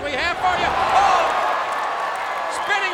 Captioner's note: crowd cheering; blows thudding